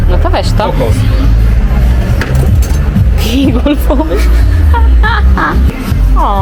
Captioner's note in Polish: śmiech